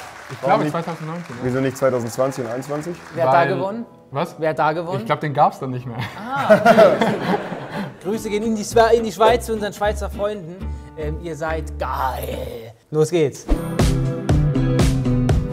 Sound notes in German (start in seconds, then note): 6.0 Gelächter; 13.5 Gemütliche Musik